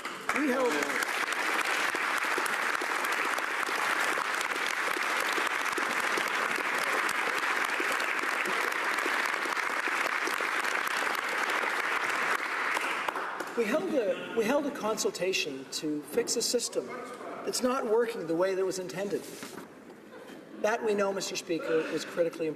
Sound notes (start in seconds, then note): 4.3 applause